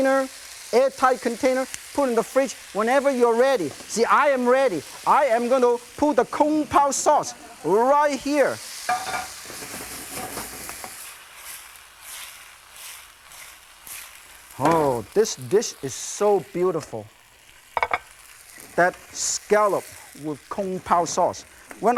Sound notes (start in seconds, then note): 6.2 crowd laughs; 8.8 pan clinking